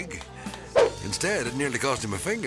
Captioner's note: transition whips